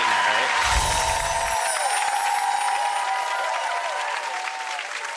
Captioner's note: cheering and applause